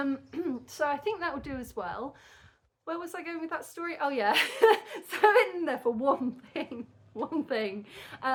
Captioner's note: laughing